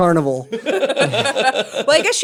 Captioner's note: laughter